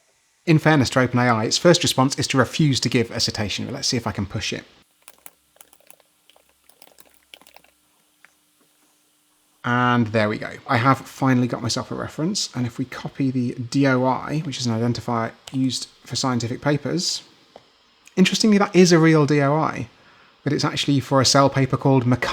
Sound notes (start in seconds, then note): 5.0 clickety-clack; 7.2 typing noises